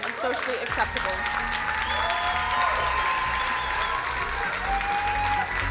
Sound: crowd cheering and applauding

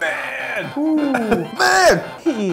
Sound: laughs

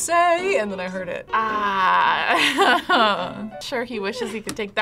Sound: laughs

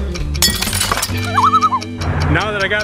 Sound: loon call

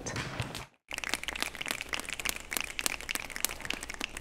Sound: applause

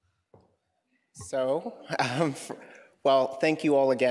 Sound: chuckling

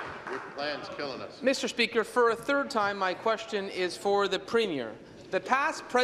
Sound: applause

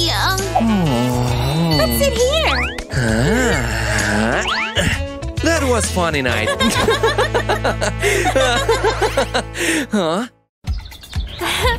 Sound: groans

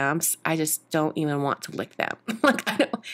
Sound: laughs

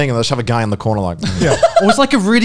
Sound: laughing softly

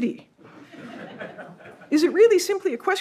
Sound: audience laughs

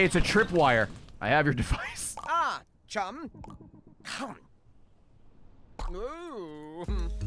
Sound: laughs

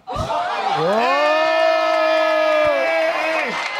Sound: audience laughing and applauds

